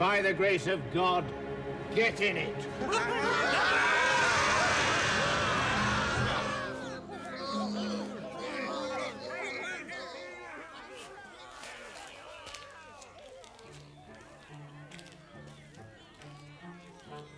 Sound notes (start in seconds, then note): 3.1 devils roaring; 7.4 devils chattering